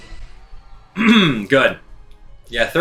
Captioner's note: clears throat